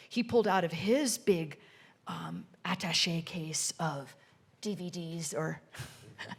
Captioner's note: chuckles